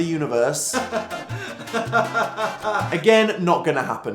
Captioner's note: suffer laughing